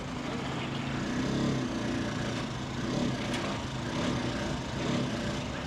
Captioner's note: tram rattling and squealing